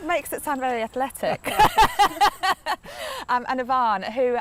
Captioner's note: laughter